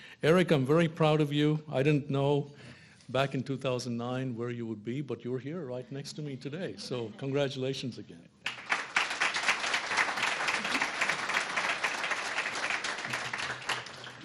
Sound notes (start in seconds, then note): 8.4 applause